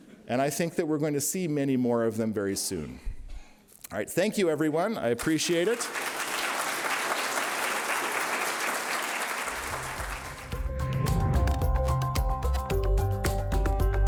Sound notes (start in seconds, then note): 5.2 applause; 10.0 upbeat digital music